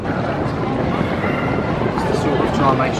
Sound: machinery whirring continues

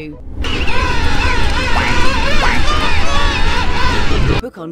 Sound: penguin noises

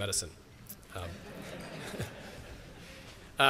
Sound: laughter

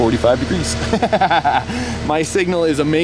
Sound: laughing

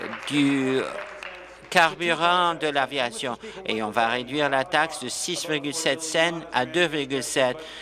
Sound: applause

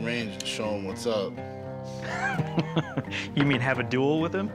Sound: laughs

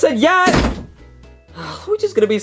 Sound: door slams

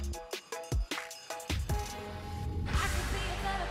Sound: bell jingling

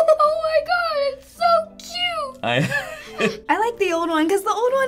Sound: giggles; chuckles

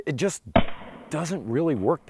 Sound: gun firing in slow motion

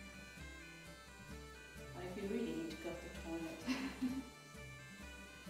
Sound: giggles

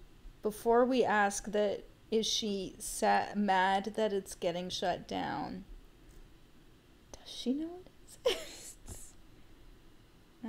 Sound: laughing

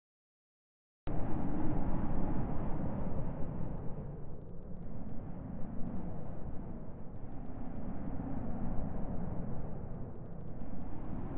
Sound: sound of dark scary castle

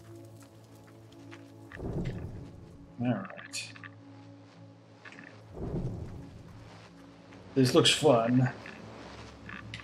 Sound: electrical buzzing

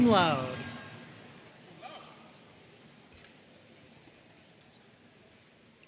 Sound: audience cheering and applauding

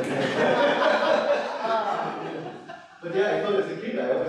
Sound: laughter

